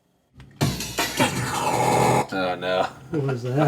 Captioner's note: strange drone